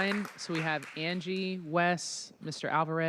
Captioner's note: applause